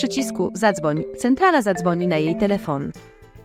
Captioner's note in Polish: dzwonek telefonu